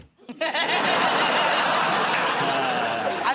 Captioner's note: laughter